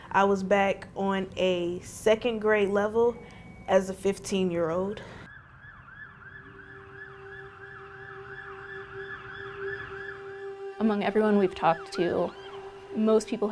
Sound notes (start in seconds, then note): 5.0 ambulance siren wails; 5.3 soft dramatic music